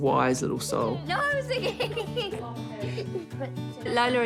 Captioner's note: laughs